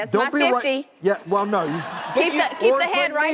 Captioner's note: laughing